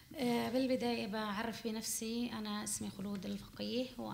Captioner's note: speaking arabic